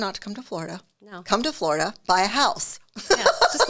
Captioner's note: laughs